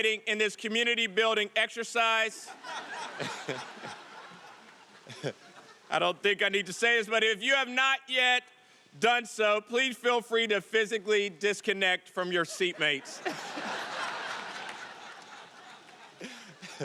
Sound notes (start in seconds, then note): 2.4 audience laughing; 12.4 audience laughing